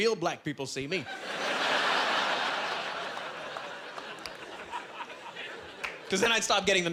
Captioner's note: laughing